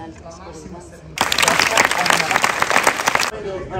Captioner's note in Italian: applausi